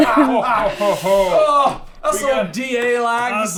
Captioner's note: laughter